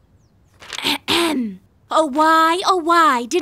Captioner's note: clearing throat